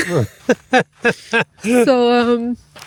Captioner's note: laughing